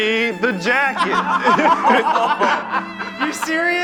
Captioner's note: laughing